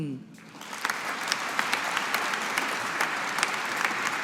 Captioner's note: audience applauding